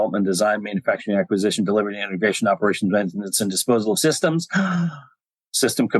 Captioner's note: gasp